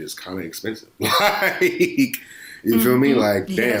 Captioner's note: laughs